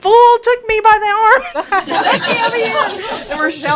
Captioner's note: laughter